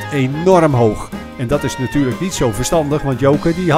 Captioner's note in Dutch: Voiceover